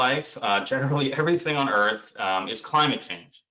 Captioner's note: chuckles